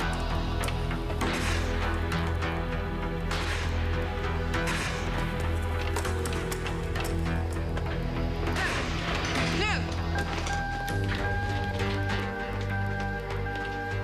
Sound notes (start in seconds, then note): 10.1 alarm blaring